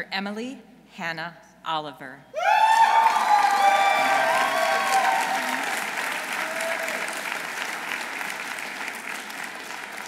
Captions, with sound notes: Dr. Emily Hannah Oliver. -(audience cheering) -(audience applauding)